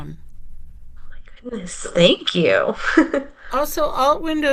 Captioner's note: chuckles